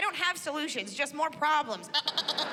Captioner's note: mimics baaing